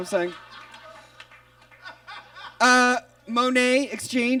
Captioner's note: audience laughs